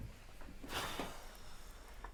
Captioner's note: sighs